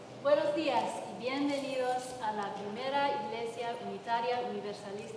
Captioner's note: translator speaks in Spanish